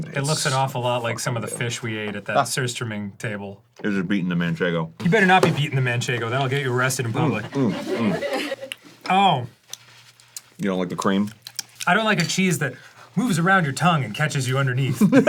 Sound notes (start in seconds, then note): 11.4 dan smacks lips aggressivley